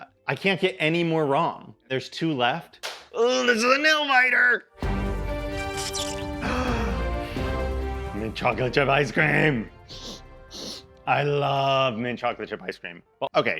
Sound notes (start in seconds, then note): 5.1 dramatic music; 6.8 gasps